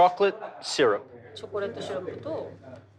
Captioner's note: speaking Japanese